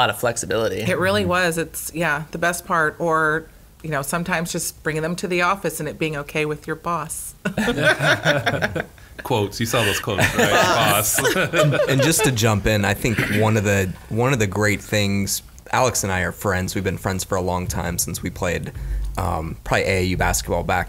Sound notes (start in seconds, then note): 7.5 laughing